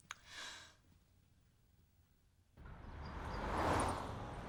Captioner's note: sighs